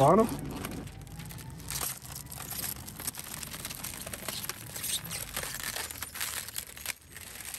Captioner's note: plastic crinkling